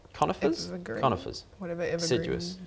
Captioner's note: none